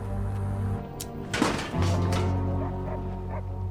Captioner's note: clanking; dog barking in distance